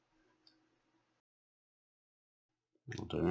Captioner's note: silence